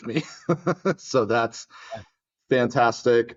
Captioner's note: laugh